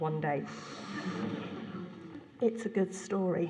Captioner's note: laughter